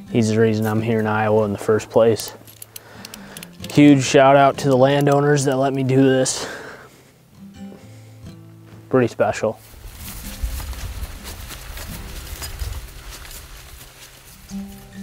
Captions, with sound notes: He's the reason I'm here in Iowa, in the first place. Huge shout out to the landowners that let me do this, pretty special. (footsteps pattering)